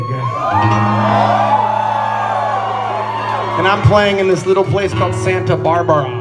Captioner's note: crowd sceams